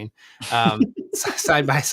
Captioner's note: laughs